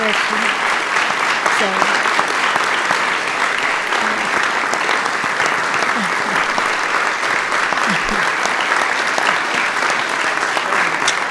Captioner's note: applause